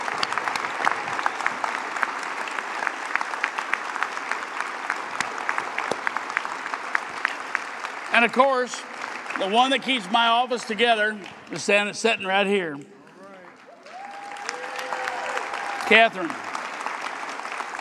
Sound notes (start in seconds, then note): 6.8 applause